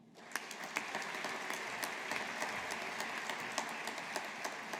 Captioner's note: audience applauding